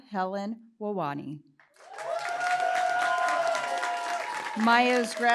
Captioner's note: cheering, applause